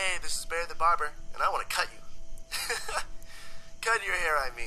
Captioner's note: laughs